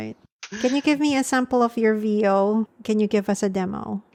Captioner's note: voice-over